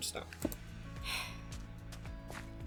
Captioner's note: sigh